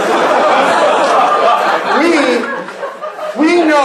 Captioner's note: laughing